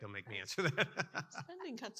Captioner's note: laughs